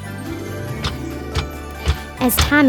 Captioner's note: footsteps plodding